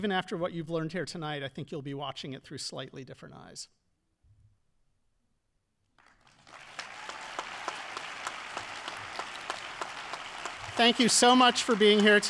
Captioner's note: audience applauding